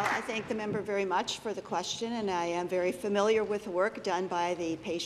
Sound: applause

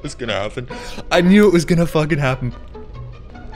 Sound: laughter

